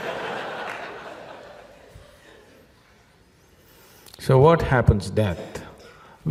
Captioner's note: laughter